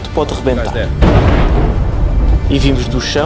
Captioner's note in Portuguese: explosão